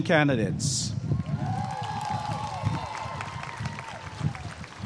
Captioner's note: applause and cheering